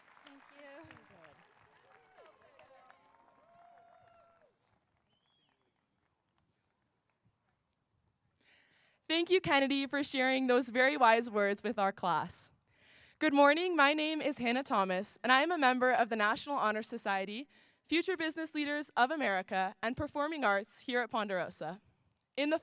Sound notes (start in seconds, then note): 3.9 cheers and applause